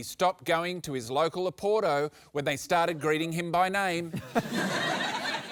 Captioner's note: laughter